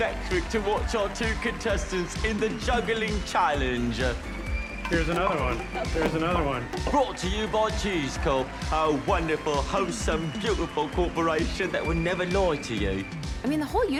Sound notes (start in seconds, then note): 4.8 pins clatter